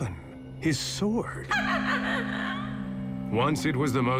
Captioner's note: high-pitched laughter